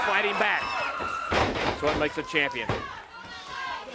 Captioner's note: crowd cheering